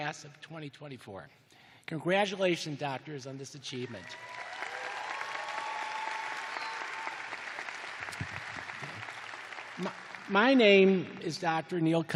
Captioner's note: cheers and applause